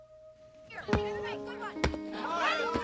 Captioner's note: clamoring